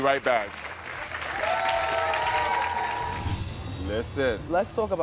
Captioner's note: audience applauding and cheering